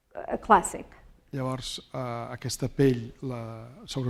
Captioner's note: speaking spanish